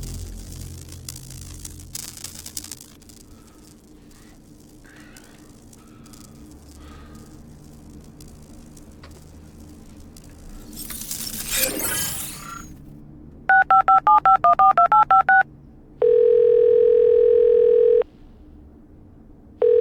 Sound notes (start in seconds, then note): 13.5 phone dialing; 16.0 ringing tone